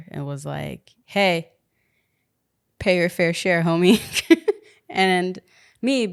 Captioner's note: laughs